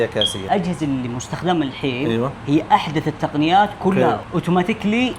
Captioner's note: Arabic